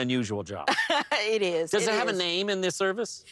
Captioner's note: laughs